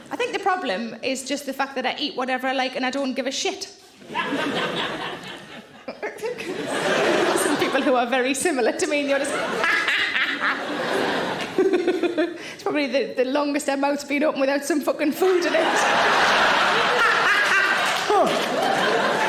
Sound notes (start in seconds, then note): 4.0 audience laughing; 9.6 Sarah cackles; 11.6 laughs; 15.3 audience laughing; 16.9 Sarah cackles